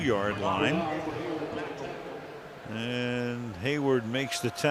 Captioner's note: pa announcement